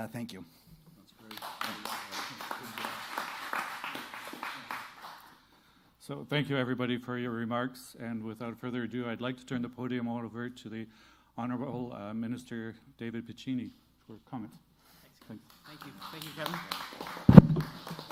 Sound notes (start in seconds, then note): 5.8 applause